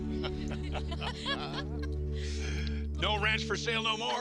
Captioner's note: group laughing